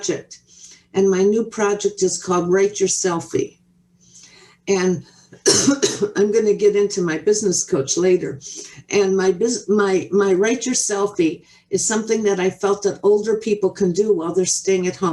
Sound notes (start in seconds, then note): 5.4 coughs